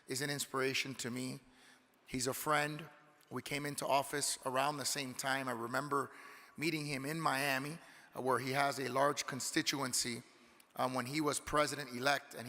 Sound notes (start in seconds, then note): none